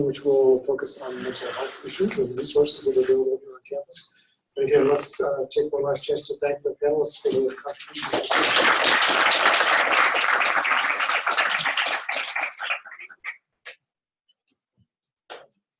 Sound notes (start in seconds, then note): 7.9 applause